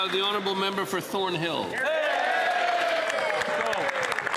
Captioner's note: some Applause